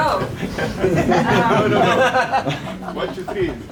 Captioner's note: laughter